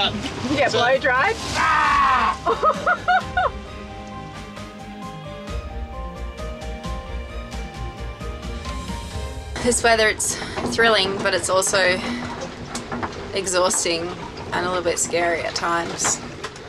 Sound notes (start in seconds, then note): 2.2 laughs